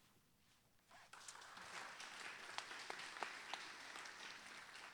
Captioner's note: audience applauding